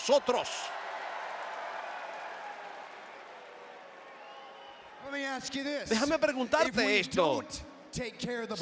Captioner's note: applause